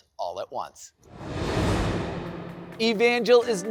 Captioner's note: air whooshing